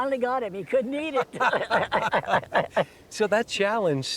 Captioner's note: laughter